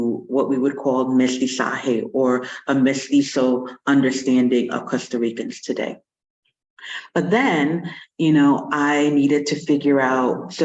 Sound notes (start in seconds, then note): 1.2 non-english